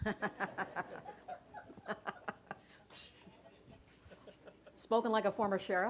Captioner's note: laughter